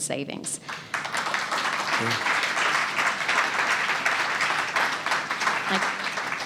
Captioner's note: applause